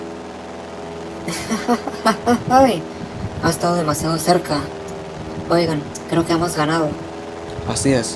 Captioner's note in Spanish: Risa breve